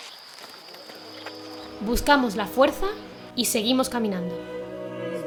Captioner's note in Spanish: Voz en off